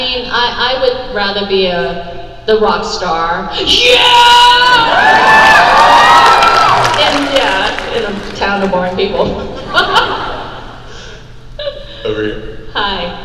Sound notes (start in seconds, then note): 3.7 screaming; 6.2 crowd cheers